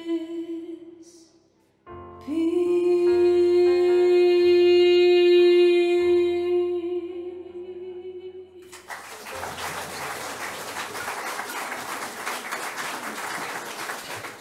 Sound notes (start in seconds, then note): 8.6 applause